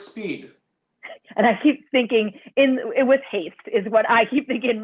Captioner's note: laughter